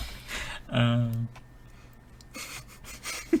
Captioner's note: laughing